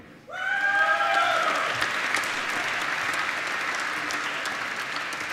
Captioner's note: applause